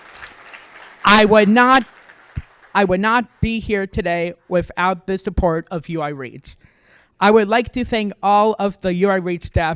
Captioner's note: applause